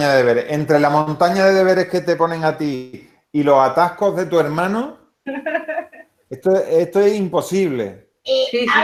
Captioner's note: laughs